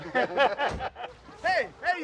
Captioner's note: laughing